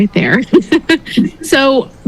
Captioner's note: laughs